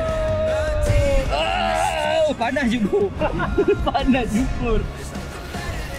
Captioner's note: laugh